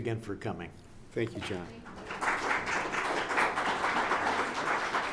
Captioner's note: audience applauds